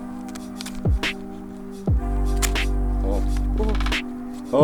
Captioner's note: razor slicing